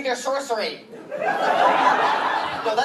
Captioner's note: laughter